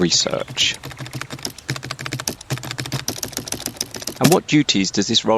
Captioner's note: continues typing